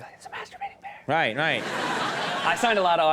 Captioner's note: audience laughs